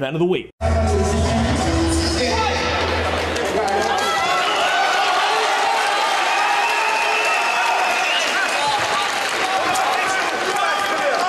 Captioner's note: fight sounds... foreign language